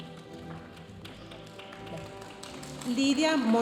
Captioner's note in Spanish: continúa la música majestuosa suave en el fondo; aplausos de la audiencia